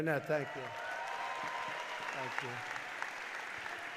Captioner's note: applause